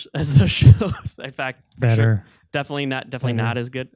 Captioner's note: laughing